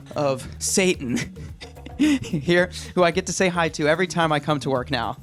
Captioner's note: chuckles